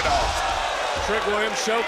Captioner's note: crowd cheering